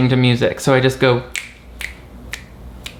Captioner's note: fingers snapping